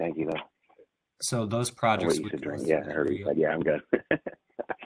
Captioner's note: laughs